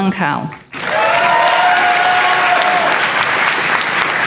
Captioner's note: applause